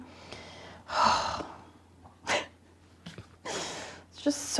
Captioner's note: sighing